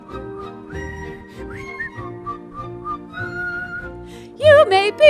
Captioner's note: whistling